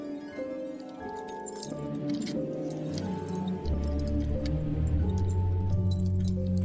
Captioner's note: keys jingling